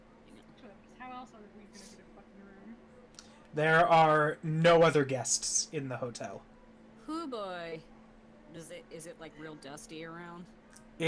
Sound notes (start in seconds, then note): none